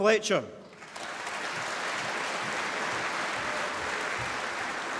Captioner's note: applause